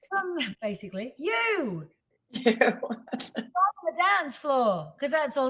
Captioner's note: laughter